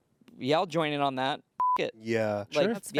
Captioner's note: beep